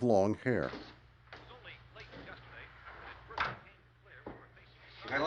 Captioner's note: none